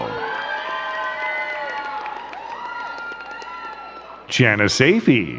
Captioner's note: crowd cheering and clapping